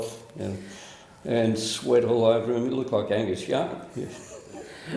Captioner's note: laughs